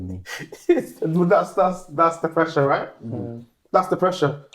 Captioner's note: laughing; laughter